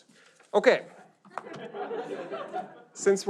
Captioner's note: audience laughs